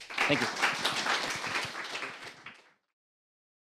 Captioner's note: applause